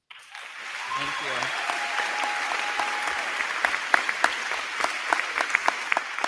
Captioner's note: crowd clapping; crowd cheering